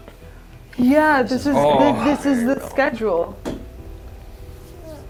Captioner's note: creeped out noises